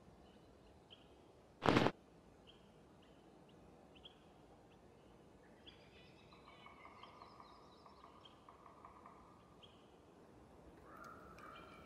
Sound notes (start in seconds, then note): 1.6 camera whirring